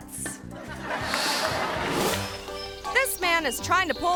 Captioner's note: audience laughing; screen whooshes